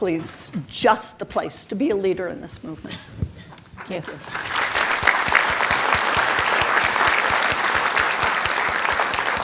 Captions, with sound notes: just the place to be a leader in this movement. Thank you. (audience applauding)